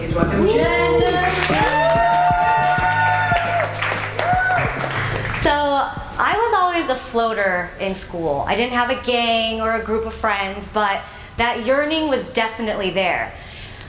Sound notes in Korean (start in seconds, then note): 0.7 응원소리; 0.9 박수소리